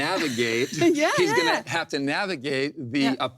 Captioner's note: laughs